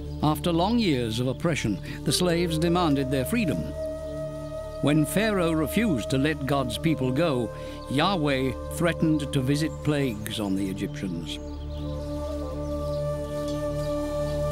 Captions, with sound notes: After long years of oppression, the slaves demanded their freedom. When Pharaoh refused to let God's people go, Yahweh threatened to visit plagues on the Egyptians. [birds]